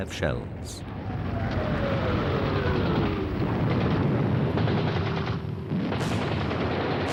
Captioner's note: gunfire; explosions